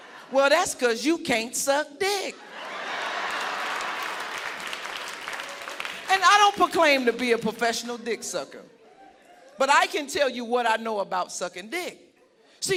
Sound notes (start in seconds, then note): 2.4 audience laughing; 2.9 audience applauding